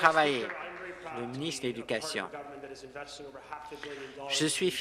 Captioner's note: applause